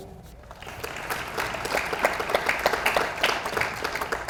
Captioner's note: audience applauds